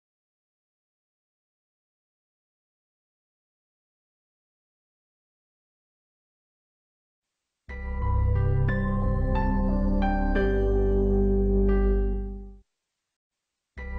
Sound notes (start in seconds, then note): 0.0 silence